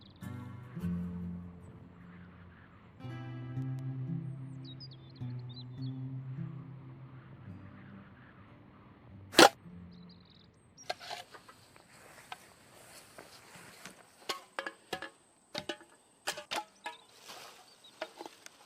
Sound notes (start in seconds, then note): 0.0 birds chirping; 4.8 birds chirping; 7.0 wind whistling; 9.3 stick crunching; 10.8 insects chirping; 15.5 metal can clanking